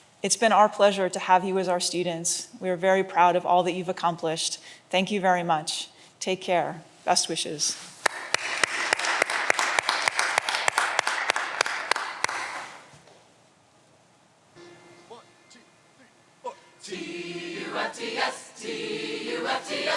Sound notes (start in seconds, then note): 8.0 audience applause